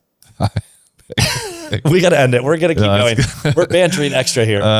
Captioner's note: laughs